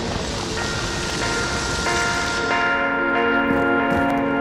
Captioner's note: bells ringing